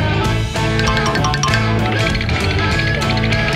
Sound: rattling

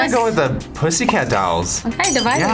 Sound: glass breaking

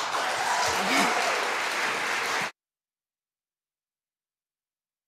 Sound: audience applauding

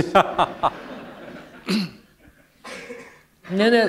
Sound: laughter

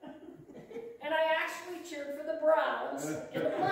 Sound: laughter

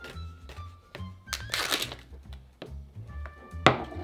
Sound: plastic ripping

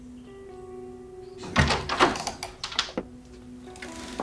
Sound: door opening

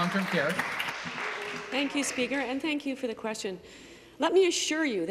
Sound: applause

